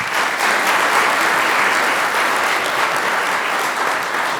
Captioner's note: applause